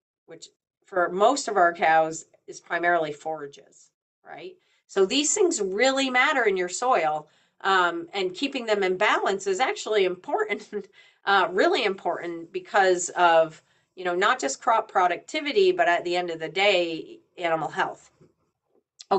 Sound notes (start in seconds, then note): none